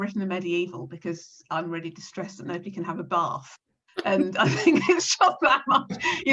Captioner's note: laughs